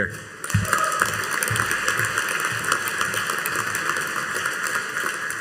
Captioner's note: audience applauding